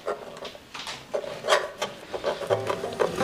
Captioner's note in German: Knabbergeräusche